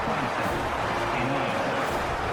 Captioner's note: crowd Noises